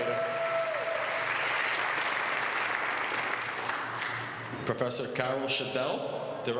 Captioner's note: applause